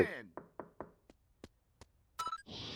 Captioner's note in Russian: стук в дверь